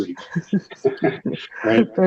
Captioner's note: laughing